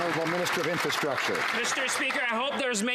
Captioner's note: some Applause